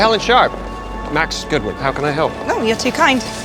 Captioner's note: voiceover